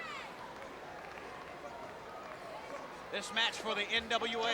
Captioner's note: crowd chattering